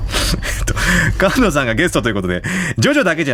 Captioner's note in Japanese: 鼻息